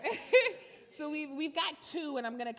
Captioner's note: laughs